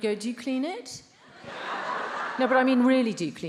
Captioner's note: attendees laughs